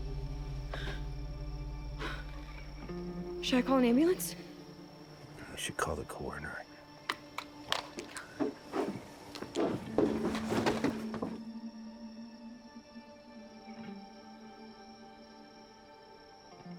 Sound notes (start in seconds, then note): 0.2 becky gasps; 7.0 flashlight clicks off; 13.6 somber music